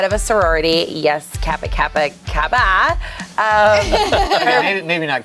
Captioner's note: group laughs